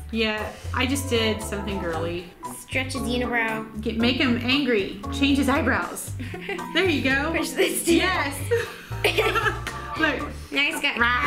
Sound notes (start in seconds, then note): 6.2 laughs; 8.4 both laugh